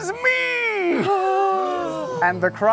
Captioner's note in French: halètements